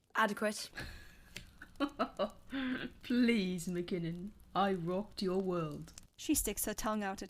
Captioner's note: James laughs